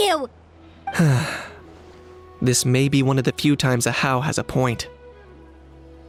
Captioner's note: sigh